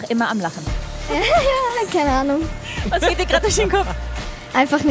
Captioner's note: lacht